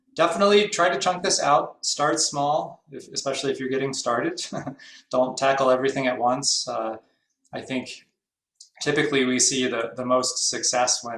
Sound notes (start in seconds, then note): 4.5 laughs